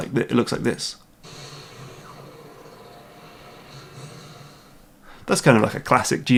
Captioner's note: game audio